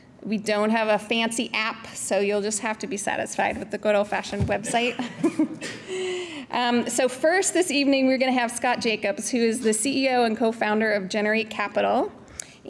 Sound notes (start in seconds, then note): 4.6 chuckles